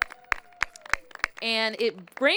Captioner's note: applause